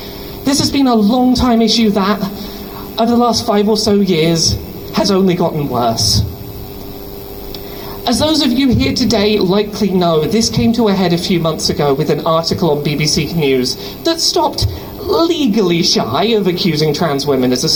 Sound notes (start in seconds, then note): none